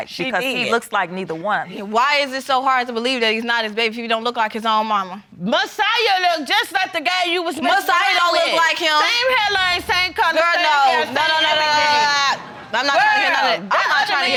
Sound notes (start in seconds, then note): 9.4 all arguing; 11.2 vocalizing